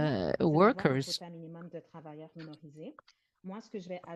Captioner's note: speaking french